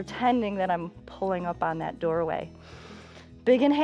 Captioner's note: inhales